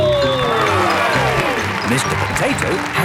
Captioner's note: cheering